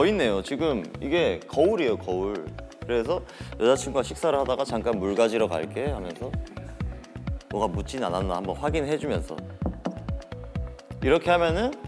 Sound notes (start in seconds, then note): 9.6 knock x2